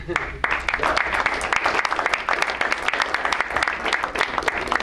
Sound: crowd applauds

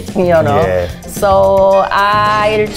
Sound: giggles

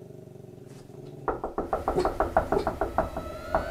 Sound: white dog growls; knocking continues

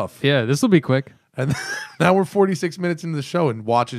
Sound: laughter

